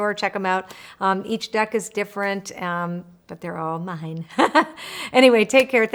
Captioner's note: laughs